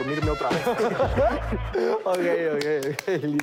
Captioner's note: laughs